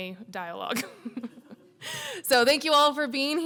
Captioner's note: laughs